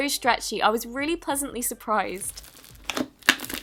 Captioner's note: satisfying squishes